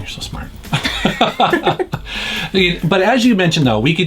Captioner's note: laughs